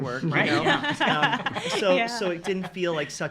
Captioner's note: laughing